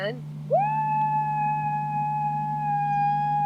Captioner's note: shouting